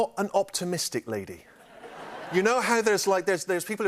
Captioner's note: laughter